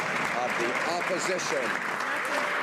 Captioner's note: some Applause